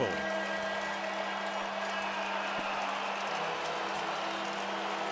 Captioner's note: pa announcement